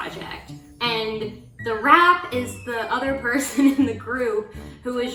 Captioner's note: chuckles